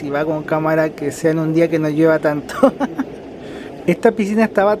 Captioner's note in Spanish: risas